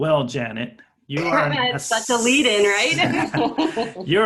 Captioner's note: laughing; laughter